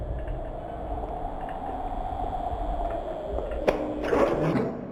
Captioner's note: wind swooshing